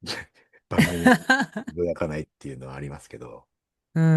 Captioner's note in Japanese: 笑い